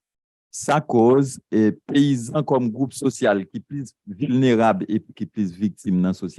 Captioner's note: speaking a foreign language